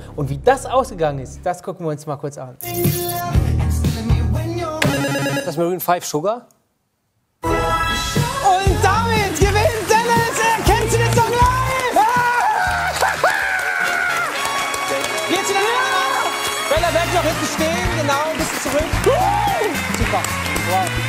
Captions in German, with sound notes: Wie das ausgegangen ist, gucken wir uns an. (Lebhafte Musik) Ist das Maroon 5, "Sugar"? Und damit gewinnt Dennis "Erkennst DU den Song Live"! (Freudiges Kreischen) Bella, bleib noch stehen. Bisschen zurück. Super.